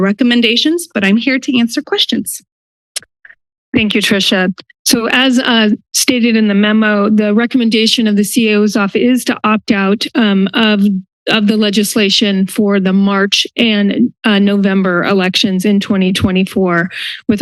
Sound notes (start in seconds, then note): 3.0 clicks tongue